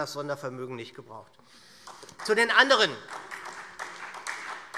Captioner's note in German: Beifall SPD